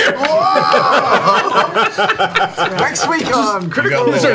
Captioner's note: laughter